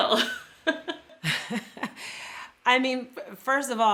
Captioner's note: laughs